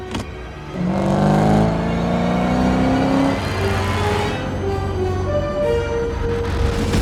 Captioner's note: dramatic music; engine roaring